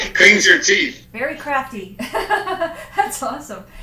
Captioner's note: laughs